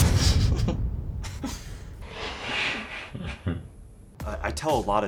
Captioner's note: laughing